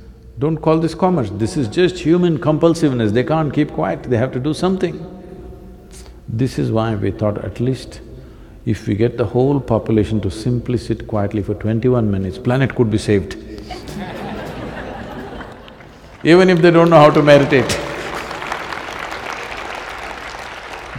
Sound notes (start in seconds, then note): 13.6 laughter; 19.2 laughs; 19.9 applause